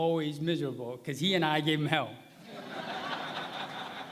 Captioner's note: laughter